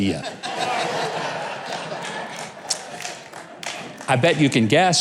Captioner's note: audience laughing